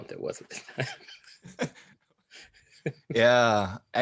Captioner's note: laughs